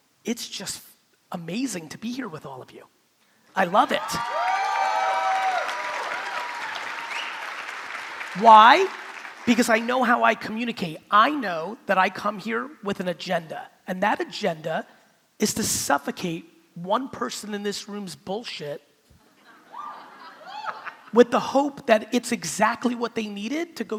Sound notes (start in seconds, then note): 3.8 crowd cheering; 4.2 crowd clapping